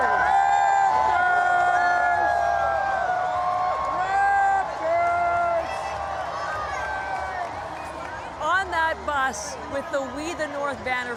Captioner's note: cheering